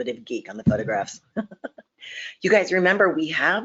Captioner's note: chuckling